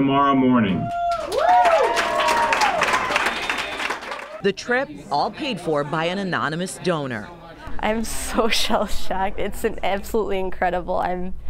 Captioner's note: applause